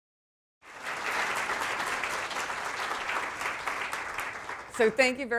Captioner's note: audience applauding